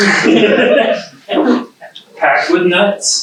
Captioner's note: audience chuckles